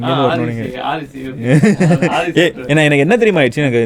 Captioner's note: laughs